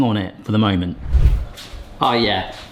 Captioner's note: screen whooshes